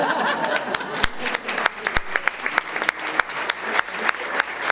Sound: audience laughs; audience applauds

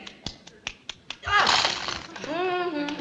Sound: crunching; humming tune

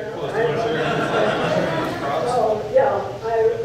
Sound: audience laughing and talking

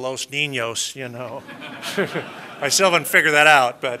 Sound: laughter

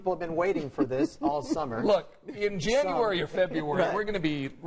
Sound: laughter

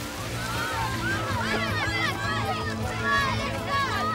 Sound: exclaiming

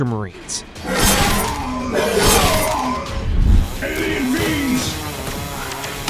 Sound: soldiers groan, weapons slice

